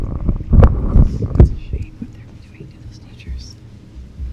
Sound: whispered

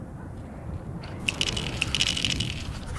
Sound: rattling can

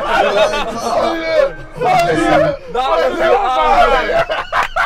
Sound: group chatter; laughing

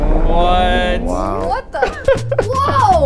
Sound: Mark laughing

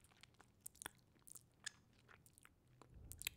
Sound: chewing sounds

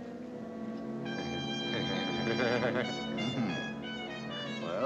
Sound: chuckling

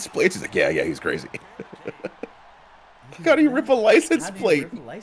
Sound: laugh

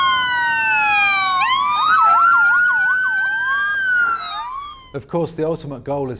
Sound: siren sound

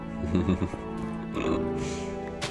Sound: evil giggling

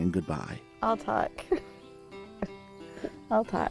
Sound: laughs

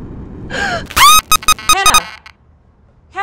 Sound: scream

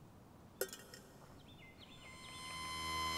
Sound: echoing metal clank

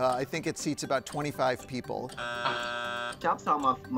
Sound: buzzer buzzing

